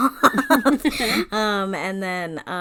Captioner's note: laughs